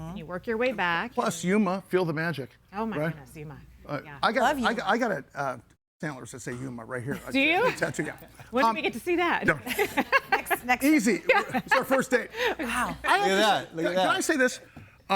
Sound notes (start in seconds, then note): 7.3 chuckles; 11.2 laughs